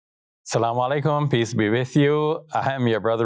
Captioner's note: speaks in Arabic